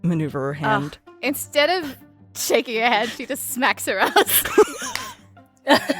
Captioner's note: A FEW PEOPLE chuckle